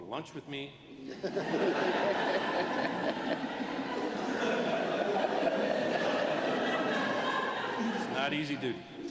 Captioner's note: laughter